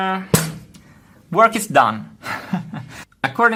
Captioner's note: laughs